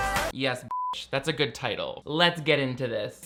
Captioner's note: beep